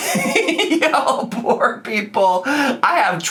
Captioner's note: laughs